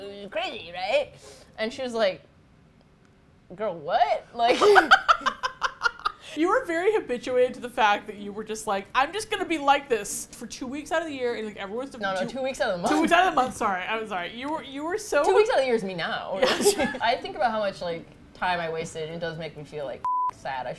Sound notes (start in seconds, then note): 4.4 laughs